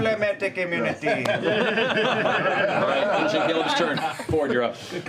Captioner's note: laughter